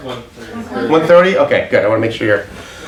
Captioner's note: overlapping chatter